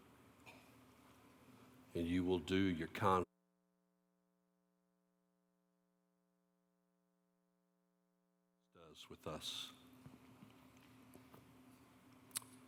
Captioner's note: audio cuts out